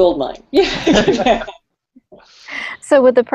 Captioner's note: laughter